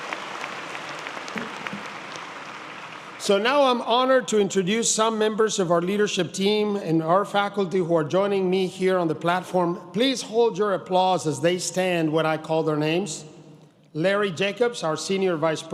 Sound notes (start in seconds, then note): 4.2 applause